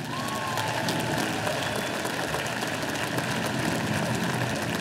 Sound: audience applauding

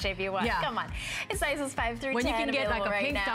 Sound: laughter; laughter

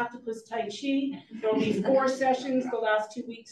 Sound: audience chuckles

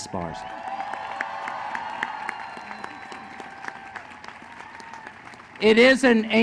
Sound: applause

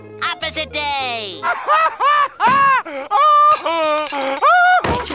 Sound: laughing

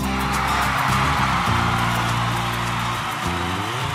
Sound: crowd cheers

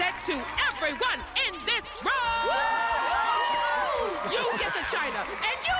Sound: cheering

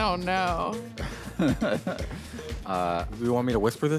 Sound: laughs

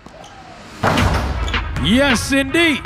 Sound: ball dunking; upbeat music

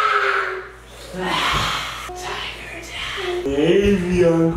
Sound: growling

